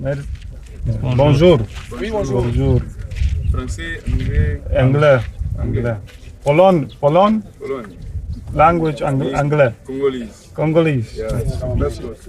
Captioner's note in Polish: rozmowa w j. francuskim